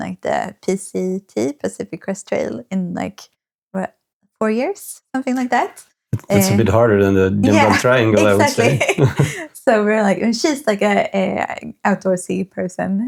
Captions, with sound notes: like the Pacific Crest Trail in like, what, four years? Something like that. It's a bit harder than the (speaking in foreign language) Yeah, exactly. (laughing) So we're like, she's like an outdoorsy person.